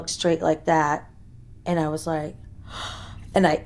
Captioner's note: heavy breathing